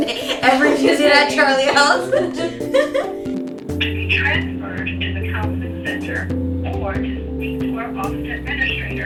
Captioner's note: laughter